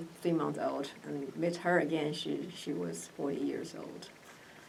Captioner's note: none